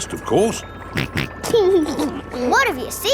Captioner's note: snorts and laughs